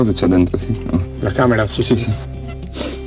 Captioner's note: speaking Italian